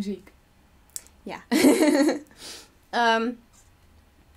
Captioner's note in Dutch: lacht